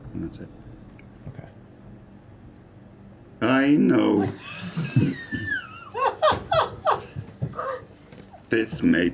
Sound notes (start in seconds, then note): 3.8 speak-and-spell voice; 6.8 laugh